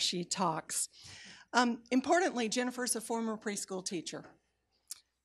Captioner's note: none